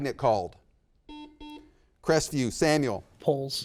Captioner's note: buzzer beeps